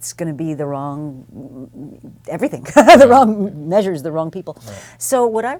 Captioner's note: laugh